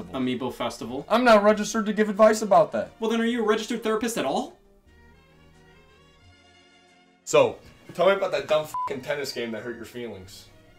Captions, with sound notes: - "Amiibo Festival." - I'm not registered to give advice about that. - Well then are you a registered therapist at all? - So, tell me about that dumb (beep) tennis game that hurt your feelings.